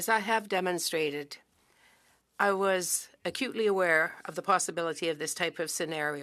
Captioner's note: speaking French